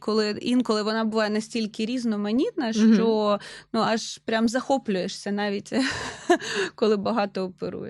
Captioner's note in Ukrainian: сміх